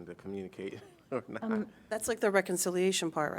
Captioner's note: laughter